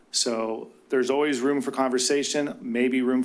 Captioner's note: none